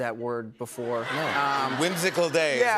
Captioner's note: laughter